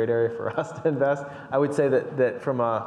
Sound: chuckles

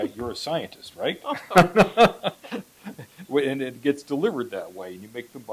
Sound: laughs

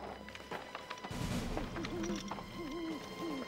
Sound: owl hooting

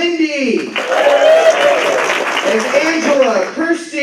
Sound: applause

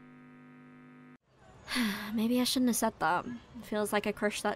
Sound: sighs

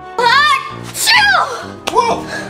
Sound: sneezing

